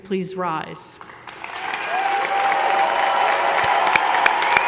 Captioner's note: audience applause